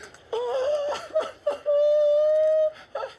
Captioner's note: whimpering